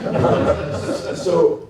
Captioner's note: laughter